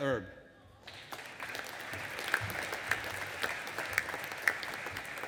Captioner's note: audience applauding